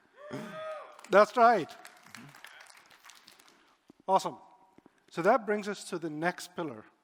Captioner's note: applause